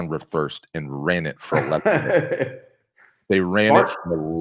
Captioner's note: laughing